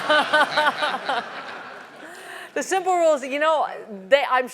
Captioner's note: laugh